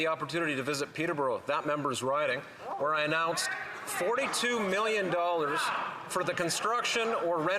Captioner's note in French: voix de l'interprète